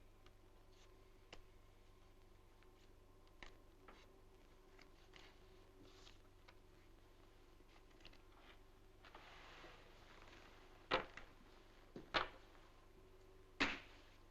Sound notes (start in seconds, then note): none